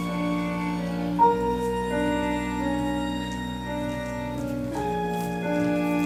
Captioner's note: bags squish; intense music continues